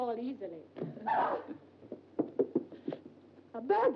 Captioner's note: Glenda shrieks